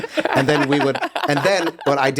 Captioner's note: laughs